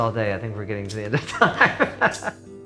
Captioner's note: laughing; thoughtful music